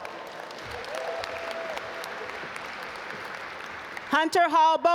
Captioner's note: audience applaud